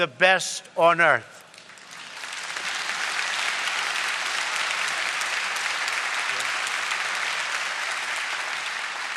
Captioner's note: applause